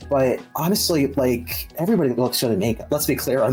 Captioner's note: none